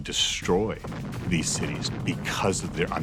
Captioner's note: explosion